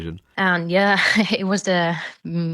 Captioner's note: laughs